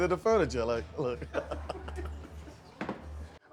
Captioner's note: laughter